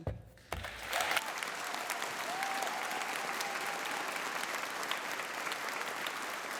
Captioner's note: audience applauding and cheering